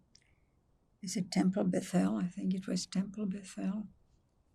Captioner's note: hebrew